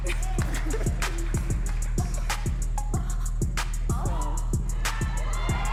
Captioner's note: audience cheering and clapping